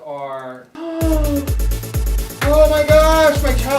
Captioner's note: gasps